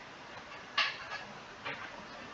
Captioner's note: plate sounds